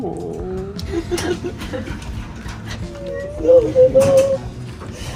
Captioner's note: crying